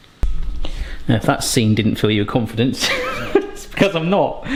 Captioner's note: chuckles